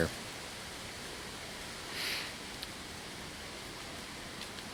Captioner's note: leaves rustling